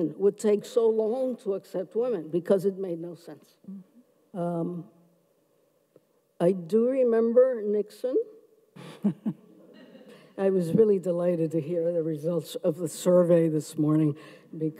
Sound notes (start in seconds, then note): 8.8 chuckles; 9.8 audience chuckles